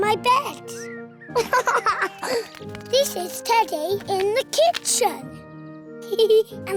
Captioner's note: giggles